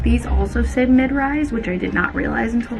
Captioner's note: none